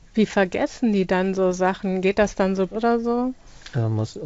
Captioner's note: speaking German